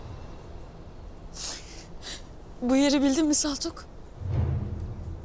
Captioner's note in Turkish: Ağlıyor